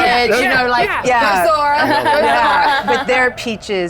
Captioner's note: laughs